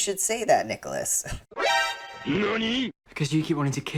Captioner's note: surprised sound